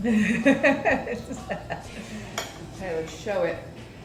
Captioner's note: laughing